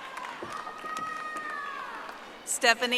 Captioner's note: audience applauding